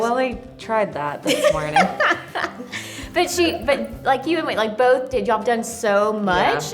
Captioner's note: laughs